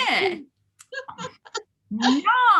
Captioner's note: laughs